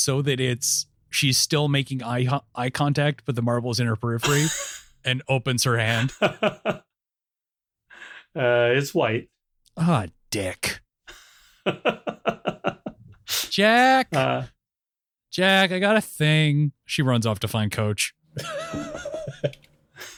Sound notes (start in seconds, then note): 5.8 laughs; 11.5 laughs; 18.3 laughs